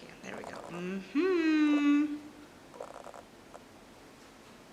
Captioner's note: exclaiming